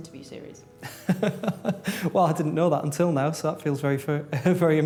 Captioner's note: laughs